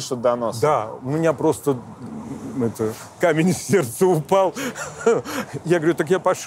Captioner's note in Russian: смеясь